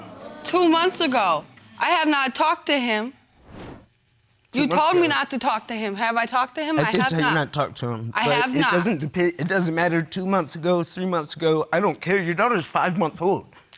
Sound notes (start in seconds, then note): none